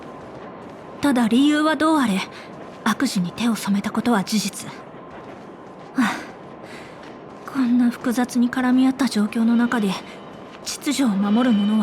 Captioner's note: sigh